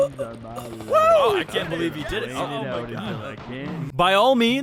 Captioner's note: Devil and Angel cheering